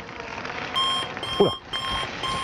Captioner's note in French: Alarme